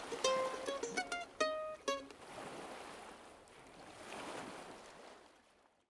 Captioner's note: sound of breaking waves